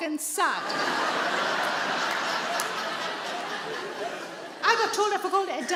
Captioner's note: audience laughing